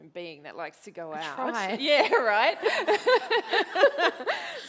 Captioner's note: laughs